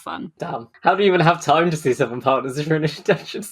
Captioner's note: laughing